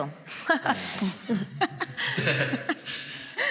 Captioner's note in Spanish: algunos ríen